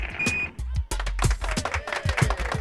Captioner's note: applause